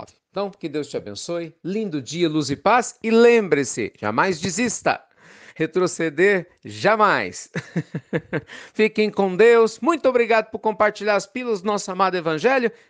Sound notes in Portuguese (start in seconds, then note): 7.5 Risos